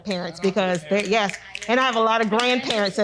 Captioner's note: group applauding